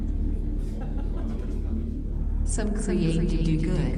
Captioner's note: person laughs